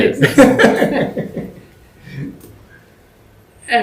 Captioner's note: laughter